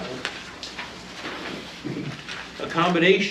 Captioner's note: papers flipping; reading from paper